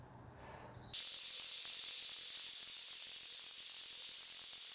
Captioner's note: tool buzzing